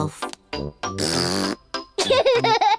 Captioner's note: blows raspberry; giggles